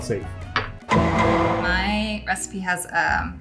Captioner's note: gavel bangs